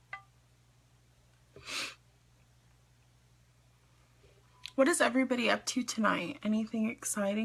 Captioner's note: sniffs